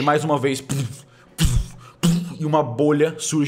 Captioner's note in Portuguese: puf puf puf